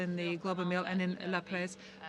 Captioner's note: speaking French